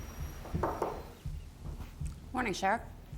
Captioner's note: knocking at door